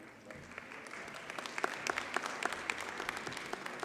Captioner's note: audience applauds